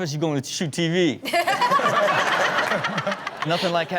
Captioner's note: all laughing